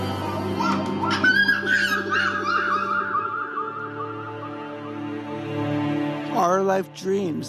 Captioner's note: baby babbling